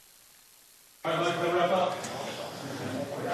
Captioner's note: chatter